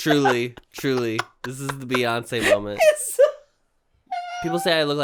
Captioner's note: cackles